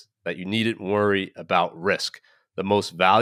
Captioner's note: none